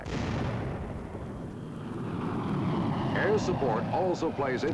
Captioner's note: booming